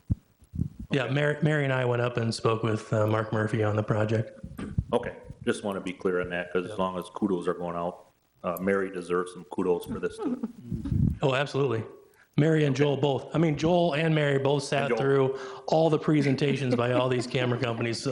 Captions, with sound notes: Yeah, Mary, and I went up and spoke with Mark Murphy on the project. Okay, I just wanted to be clear on that cause as long as kudos are going out, Mary deserves some kudos for this too. (chuckles) Mm-hmm. Oh, absolutely, Mary and Joel both, I mean, Joel and Mary both sat- And Joel. Through all the presentation (laughing) by all these camera companies.